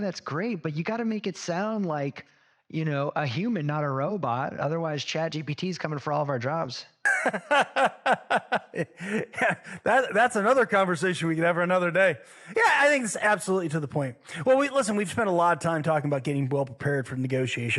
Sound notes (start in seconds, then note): 7.0 laugh